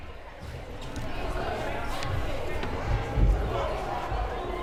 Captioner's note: crowd murmuring